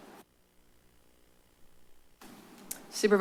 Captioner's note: pause